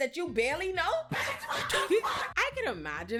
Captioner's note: laughing